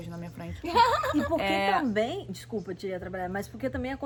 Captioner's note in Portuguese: laughs